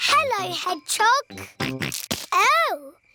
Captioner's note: snorts